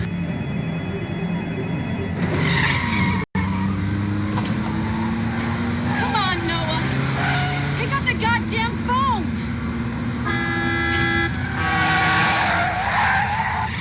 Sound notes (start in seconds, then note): 2.1 tires Screeching; 8.6 honking And Tires Screeching